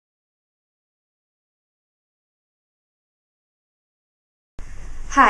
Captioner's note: silent